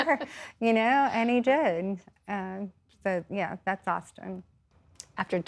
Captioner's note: laughter